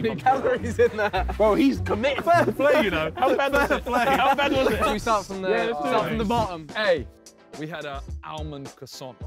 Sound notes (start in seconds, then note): 2.5 all laughing